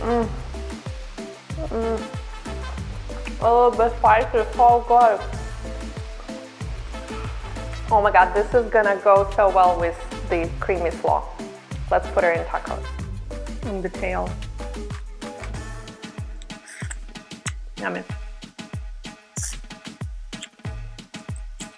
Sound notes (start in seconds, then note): 16.4 munches; 19.4 sucking